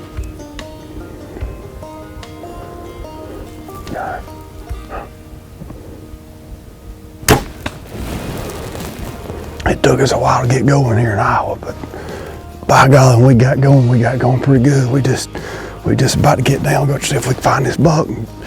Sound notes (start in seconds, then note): 0.0 soft music continues; 7.2 sound of bowshot